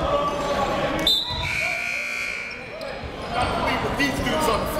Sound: buzzer goes off

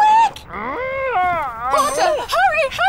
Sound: yawns

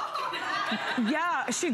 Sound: laughter

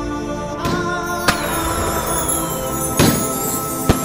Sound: crackers bursting

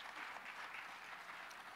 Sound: applause

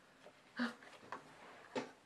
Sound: gasps

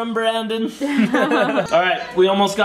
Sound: laughs

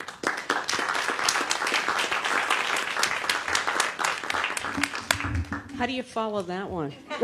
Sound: applause

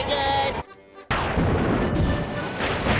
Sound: thundering

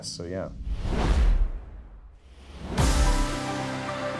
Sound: screen whooshes; intense music

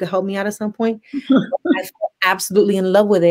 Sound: laughs

